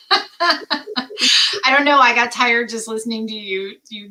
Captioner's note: laughter